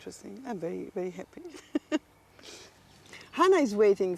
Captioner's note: laughter